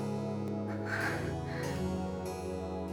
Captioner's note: breath